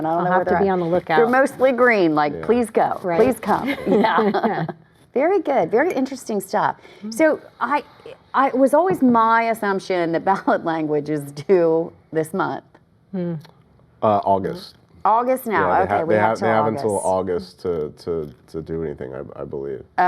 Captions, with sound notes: I DON'T KNOW WHERE THEY'RE AT. THEY'RE MOSTLY GREEN LIKE PLEASE GO. PLEASE COME. [LAUGHTER] VERY GOOD. VERY INTERESTING STUFF. SO IT WAS ALWAYS MY ASSUMPTION THAT BALLOT LANGUAGE IS DUE THIS MONTH. >> AUGUST. >> AUGUST NOW? >> THEY HAVE UNTIL AUGUST TO DO ANYTHING I BELIEVE.